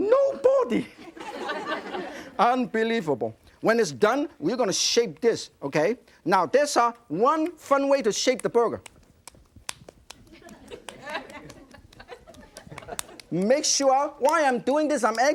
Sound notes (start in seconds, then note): 1.0 audience laughing; 9.6 clapping burger patty in hand; 10.3 audience laughing